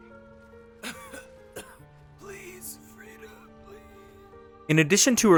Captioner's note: wheezing cough